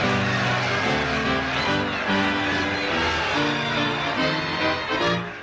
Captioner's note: crowd cheering